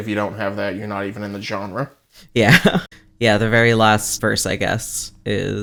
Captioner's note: laughs